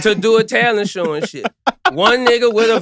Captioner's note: laughing